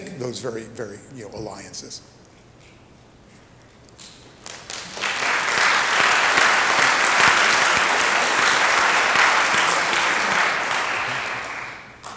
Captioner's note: applause